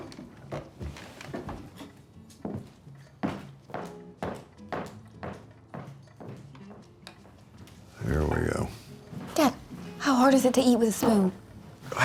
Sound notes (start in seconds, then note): 3.2 heels clack